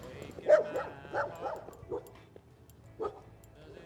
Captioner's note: dogs barking